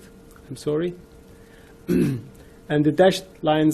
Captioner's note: clears throat